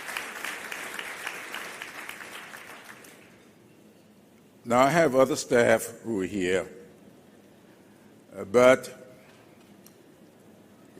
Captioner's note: applause